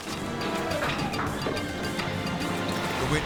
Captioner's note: Toughie neighs